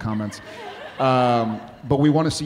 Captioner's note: audience laughing